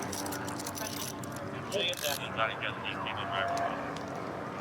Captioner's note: dispatch chatter